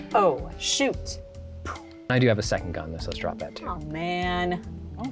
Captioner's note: pat